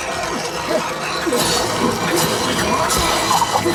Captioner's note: loud eerie sound